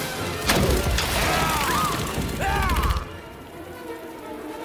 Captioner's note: Hopper Roaring; Atta Screaming